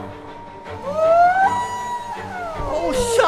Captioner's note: whale song